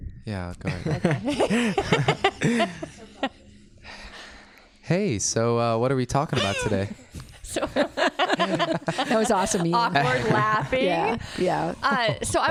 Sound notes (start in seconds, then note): 0.7 laughs; 6.3 laughs